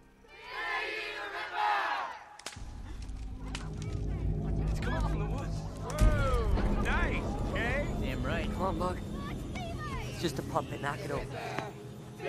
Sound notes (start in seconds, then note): 2.3 twig snapping